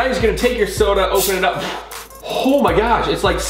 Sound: pressure whistles

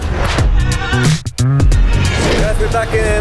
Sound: swoosh

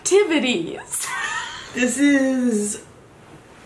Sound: laughs

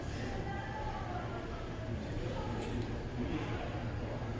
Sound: the faint sound of people

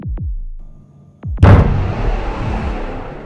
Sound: thudding continues

